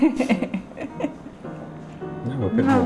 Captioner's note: laughing